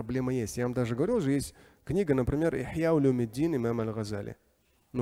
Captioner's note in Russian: говорит на арабском